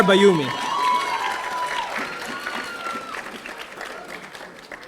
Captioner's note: audience applauding